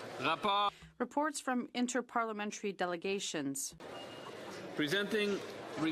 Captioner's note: speaking French